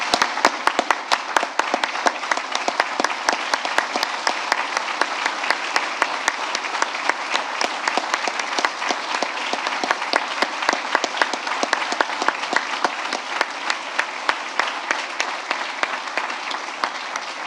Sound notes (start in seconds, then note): 6.8 applause